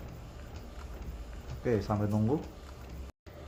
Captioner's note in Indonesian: suara mesin printer